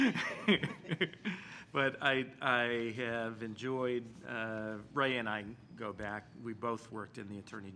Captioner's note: chuckling